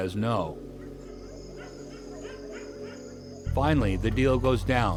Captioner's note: crickets and dogs barking